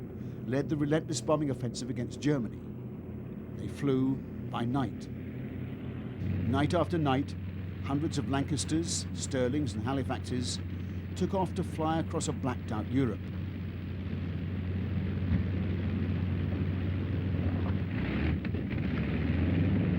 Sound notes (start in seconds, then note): 13.4 humming, rumbling